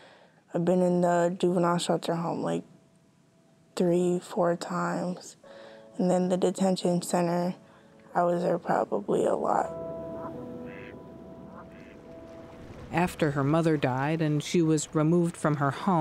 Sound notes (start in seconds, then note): 10.5 ducks quacking